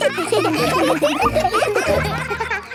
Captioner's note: children laughing